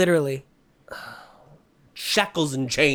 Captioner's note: sigh